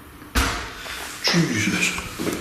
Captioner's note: thud